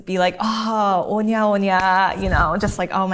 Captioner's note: talking in a foreign language